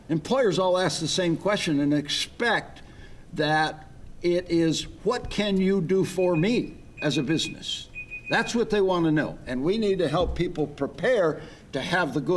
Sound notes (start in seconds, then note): 6.0 timer beeping